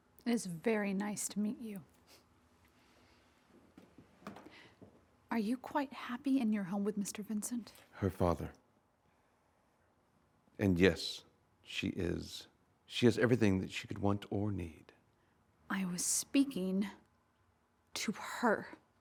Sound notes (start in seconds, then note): none